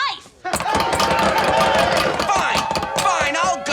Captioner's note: cheering